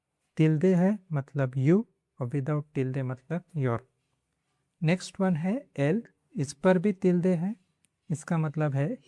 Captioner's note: with an accent